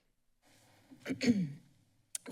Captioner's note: clears throat